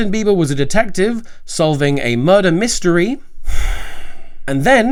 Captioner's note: sighs